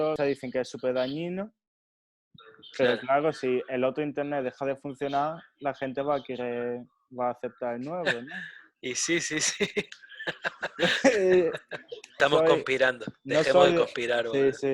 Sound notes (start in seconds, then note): 8.9 laughs